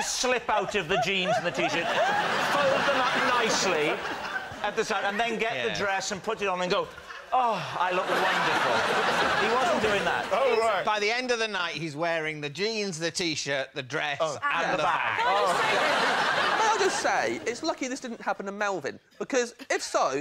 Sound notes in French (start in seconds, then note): 7.8 rires; 14.5 rires